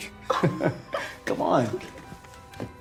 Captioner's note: both laugh